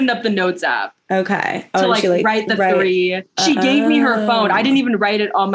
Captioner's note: ohh